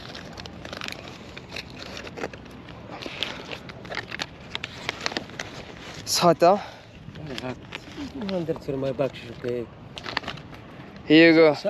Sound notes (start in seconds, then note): 0.0 crunching